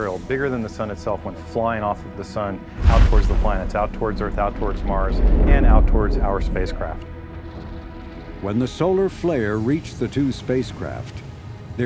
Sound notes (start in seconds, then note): 2.8 loud blast; 7.6 blast